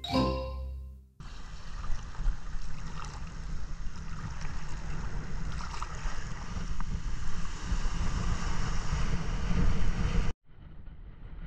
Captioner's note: water sound; wind sound